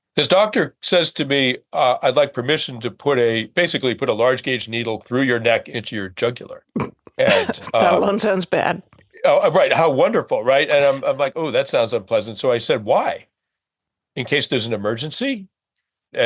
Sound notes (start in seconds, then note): 7.1 chuckling